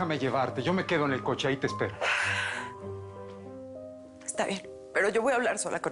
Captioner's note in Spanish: Ella exhala